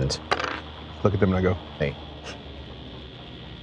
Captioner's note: dice rolling